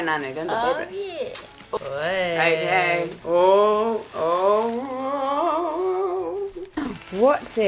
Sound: Noises of excited anticipation directed at Walter

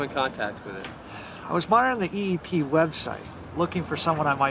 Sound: sighing

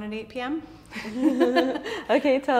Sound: laughing

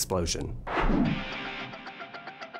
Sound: whoosh

